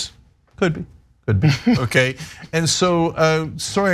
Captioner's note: laugh